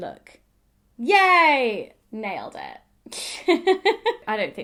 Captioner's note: laughs